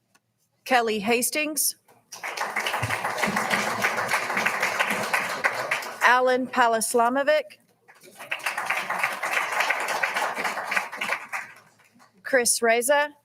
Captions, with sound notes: Kelly Hastings. (all applauding) Allen Palislamovic. (all applauding) Chris Reza.